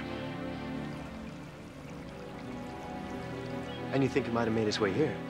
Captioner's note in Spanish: gorgoteo líquido